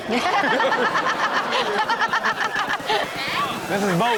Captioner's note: Chanel and audience laughing